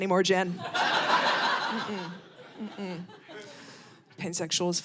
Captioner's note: audience laughing